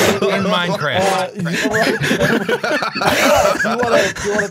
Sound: laughter

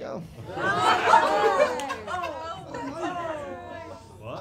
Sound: crowd cringe

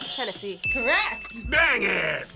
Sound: buzzer rings; bell rings

